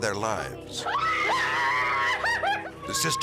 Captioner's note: screaming